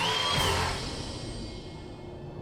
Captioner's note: crowd cheers